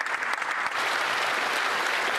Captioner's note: applause